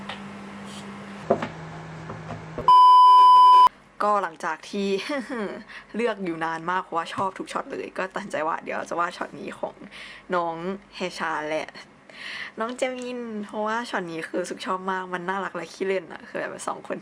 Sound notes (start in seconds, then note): 2.6 beep sound; 12.2 in tiny voice